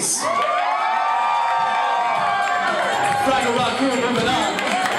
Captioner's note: crowd cheers